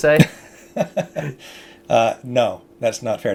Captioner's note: chuckles